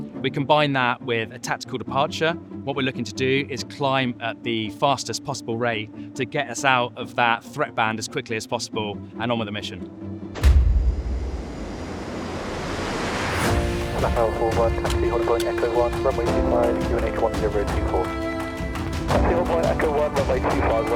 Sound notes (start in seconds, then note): 10.5 plane engine rumbling; 14.2 uplifting music